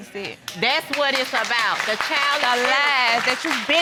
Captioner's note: audience clapping